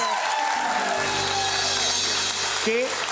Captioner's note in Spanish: Aplausos